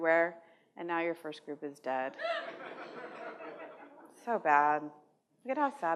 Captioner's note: laughter